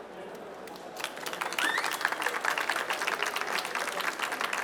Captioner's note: applause